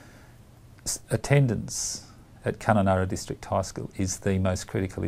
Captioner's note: voiceover